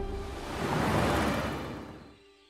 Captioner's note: car passing